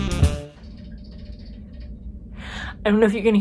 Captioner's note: metallic rattle